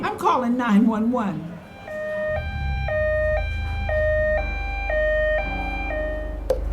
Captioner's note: siren